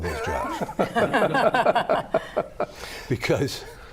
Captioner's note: panelists laughing